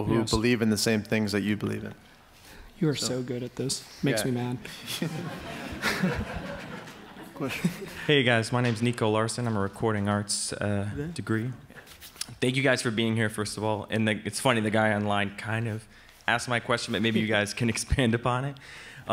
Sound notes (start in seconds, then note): 4.7 audience laughs